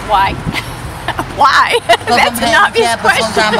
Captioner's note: laughing